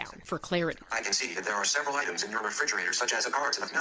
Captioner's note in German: App-Stimme